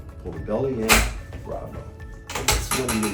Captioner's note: table clanking